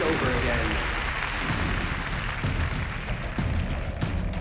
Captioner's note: applause